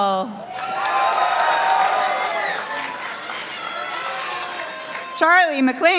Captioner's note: participants applauding